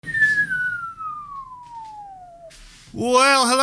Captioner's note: whistling